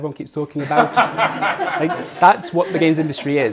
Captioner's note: audience laughing